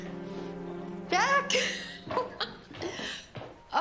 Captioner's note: laughing